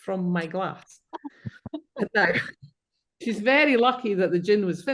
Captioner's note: participants chuckling